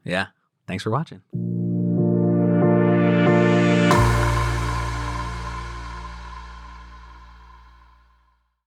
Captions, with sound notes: - Yeah, thanks for watching. (logo whooshing)